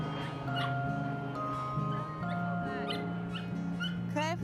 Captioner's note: dog yelping